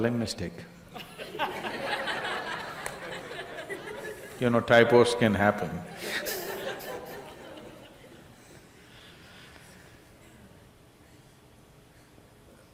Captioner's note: laughter